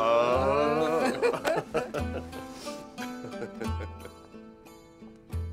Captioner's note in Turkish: Gülme sesleri